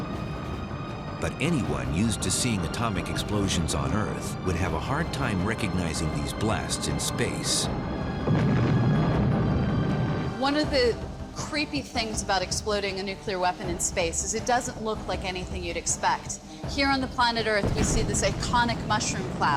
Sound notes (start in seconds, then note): 8.2 blast sound